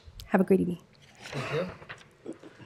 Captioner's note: laughter